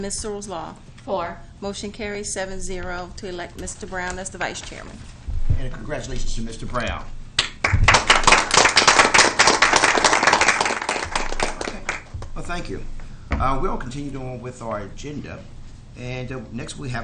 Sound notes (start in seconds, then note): 7.4 applause